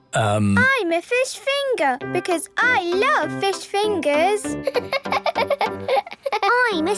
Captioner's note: laughing